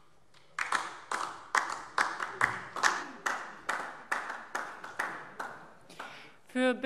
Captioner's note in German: Beifall DIE LINKE